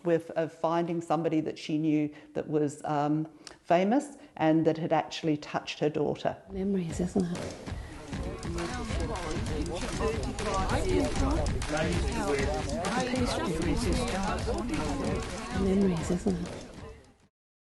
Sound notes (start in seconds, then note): 6.5 upbeat music; 7.8 people chattering